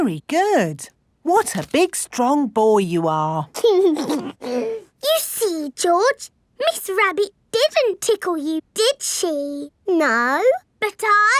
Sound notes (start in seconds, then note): 3.6 giggles